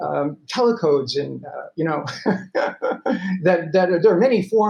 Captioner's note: laughing